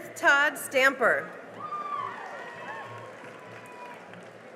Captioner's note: cheering and applause